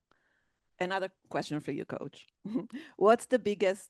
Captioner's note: chuckles